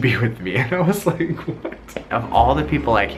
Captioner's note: laughing